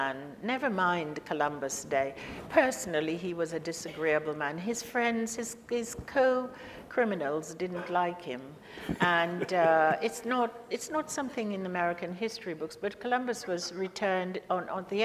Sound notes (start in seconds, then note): 8.8 laughs